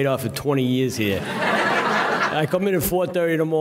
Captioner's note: audience laughing